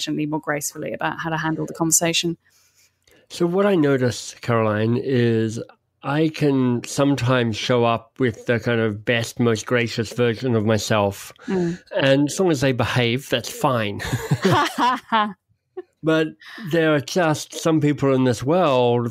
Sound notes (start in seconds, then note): 13.7 both laugh